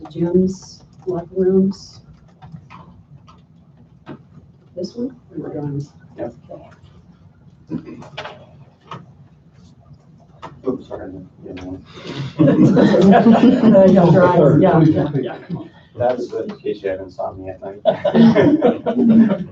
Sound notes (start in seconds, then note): 5.8 indistinct conversation; 12.2 laughter; 14.4 indistinct conversation